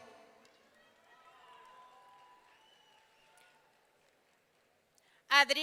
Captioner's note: audience cheering